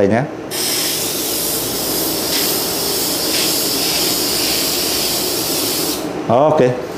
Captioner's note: spray mounting sound